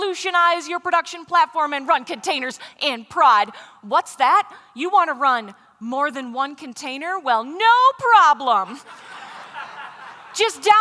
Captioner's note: laughter